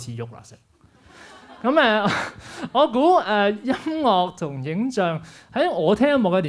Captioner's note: laughs